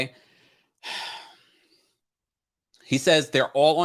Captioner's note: sighs